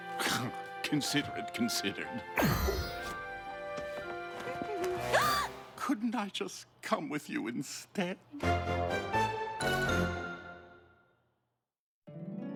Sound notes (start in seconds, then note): 5.1 humming, gasps